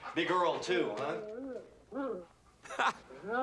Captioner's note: dog whining